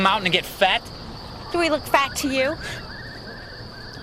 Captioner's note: scoffs